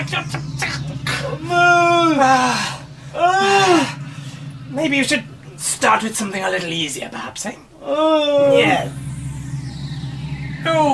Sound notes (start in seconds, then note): 1.0 both groaning; 8.1 monster grunts